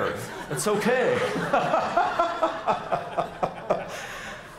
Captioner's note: laughing